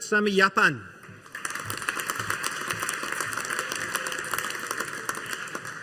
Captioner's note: audience applauding